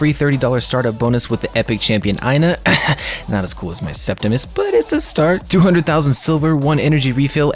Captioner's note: ahem